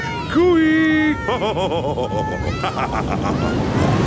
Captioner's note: laughs